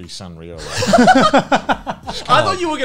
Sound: laughs

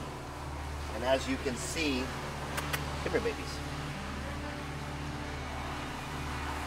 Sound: soft kissing

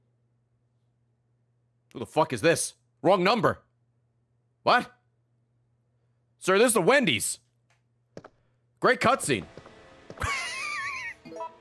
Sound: laughs

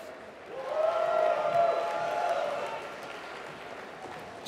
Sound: applause

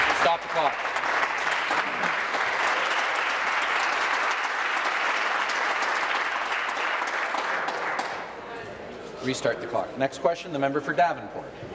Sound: applause

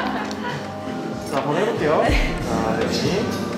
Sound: laughter

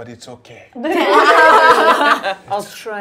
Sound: all laughing

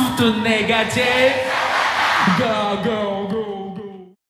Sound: foreign language

